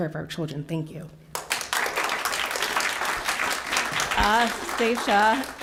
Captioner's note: applause